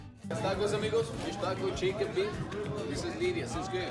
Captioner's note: foreign language